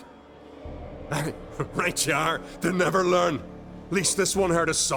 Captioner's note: snicker